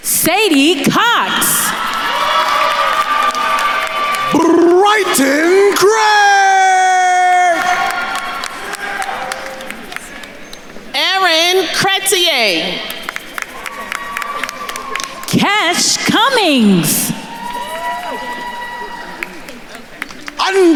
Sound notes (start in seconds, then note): 2.1 attendees cheering and applauding; 7.8 attendees applauding; 12.7 attendees cheering and applauding; 17.6 attendees cheering